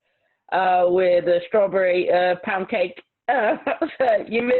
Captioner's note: laughs